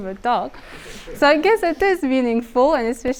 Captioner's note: audience laughing